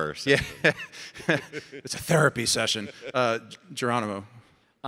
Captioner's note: chuckling